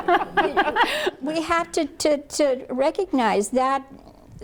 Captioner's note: laughter